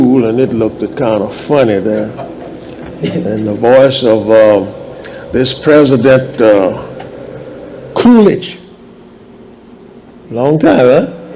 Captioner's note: laughs